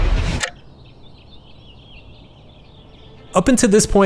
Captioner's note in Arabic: زقزقة الطيور